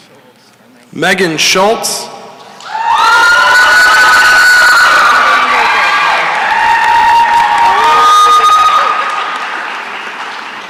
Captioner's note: cheering and applause